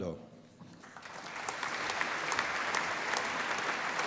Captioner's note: applause